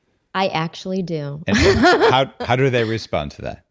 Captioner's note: laughing